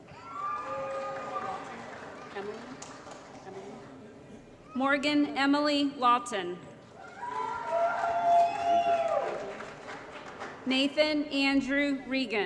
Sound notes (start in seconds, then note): 0.1 applause & Cheering; 7.0 applause & Cheering